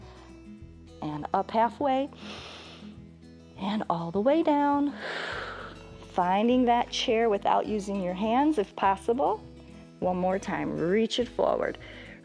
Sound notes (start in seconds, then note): 2.2 inhales; 5.3 exhales